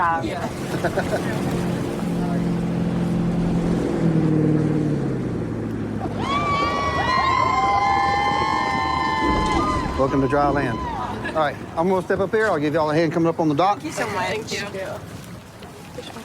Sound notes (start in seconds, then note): 3.8 laughs; 6.0 cheers